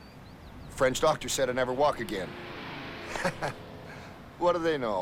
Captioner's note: laughs